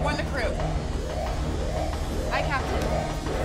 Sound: alarm blaring; ship whirring

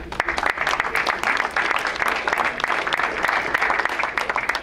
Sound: crowd applauds

